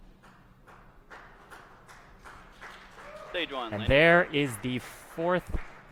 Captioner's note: applause